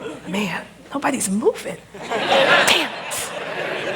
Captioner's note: laughter